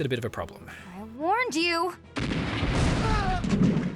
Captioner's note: artillery kablam